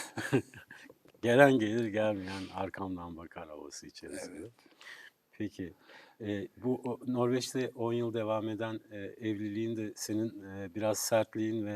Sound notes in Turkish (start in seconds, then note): 0.0 kahkaha; 4.0 homurdanır